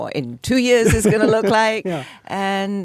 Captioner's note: David laughs